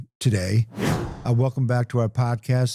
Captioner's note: air whooshing